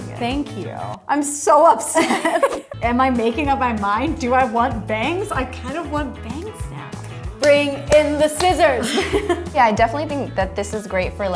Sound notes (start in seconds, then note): 8.7 laughs